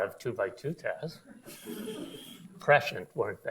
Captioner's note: audience laughs